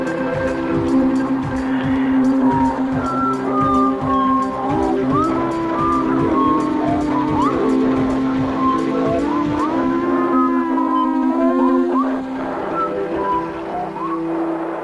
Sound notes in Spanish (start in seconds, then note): 2.2 silbidos